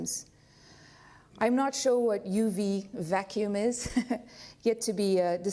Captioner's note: laughs